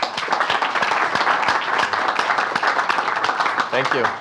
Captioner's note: applause